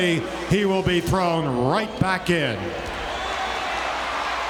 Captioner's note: audience cheering